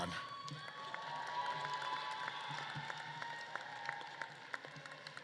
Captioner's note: audience claps and cheers